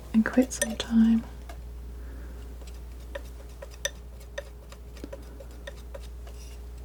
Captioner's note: scratching